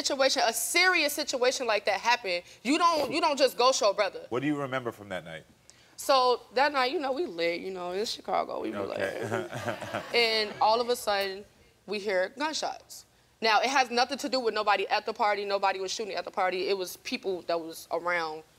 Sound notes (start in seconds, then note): 9.0 laughing